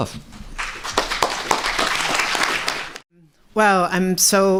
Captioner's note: applause